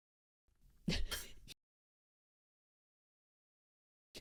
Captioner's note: chuckle